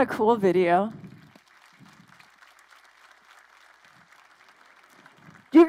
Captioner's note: crowd applauding